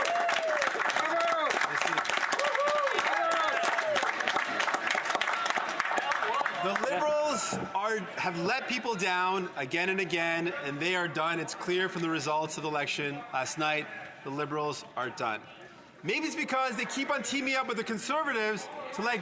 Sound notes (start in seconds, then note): 5.1 some Applause; 5.5 cheering